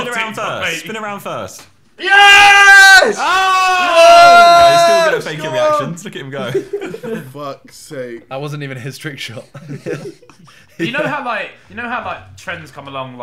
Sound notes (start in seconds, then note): 6.3 laughing